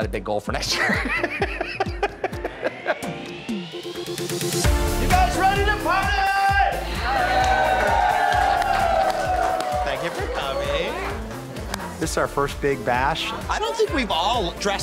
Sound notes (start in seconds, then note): 0.7 laughs; 3.3 upbeat music; 6.1 crowd cheering